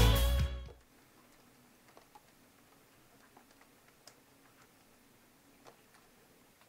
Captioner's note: sound of rain